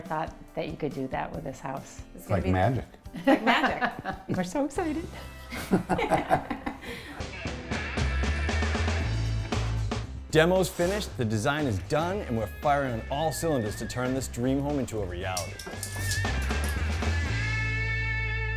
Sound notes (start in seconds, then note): 5.3 laughing; 7.7 upbeat music